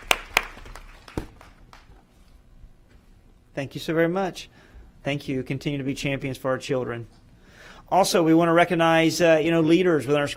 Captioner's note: applause